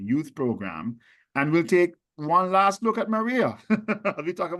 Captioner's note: laughs